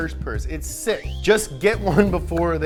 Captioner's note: electric ring